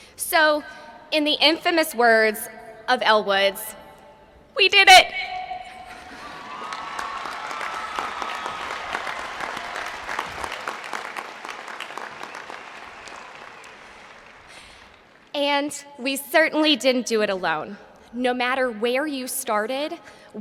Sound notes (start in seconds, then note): 12.8 applause